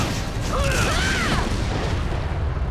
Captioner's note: screaming